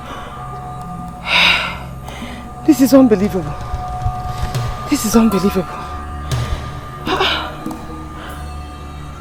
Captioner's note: sighs